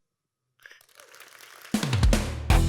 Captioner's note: audience applauds; upbeat rock music